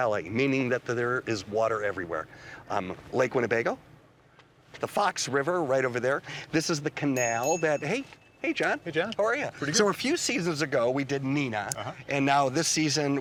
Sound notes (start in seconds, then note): 7.1 bicycle bell dinging